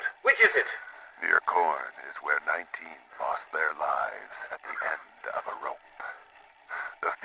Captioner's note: he coughs